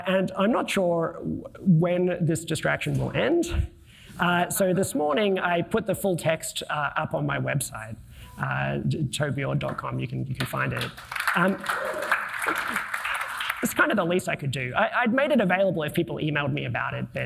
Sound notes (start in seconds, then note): 10.7 audience applauding